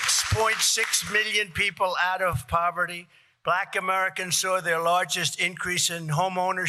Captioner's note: cheers and applause